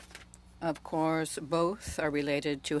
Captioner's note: speaking French